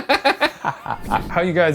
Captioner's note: laughs satirically